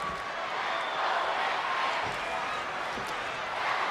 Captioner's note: crowd chanting